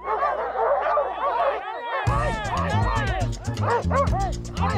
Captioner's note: dogs barking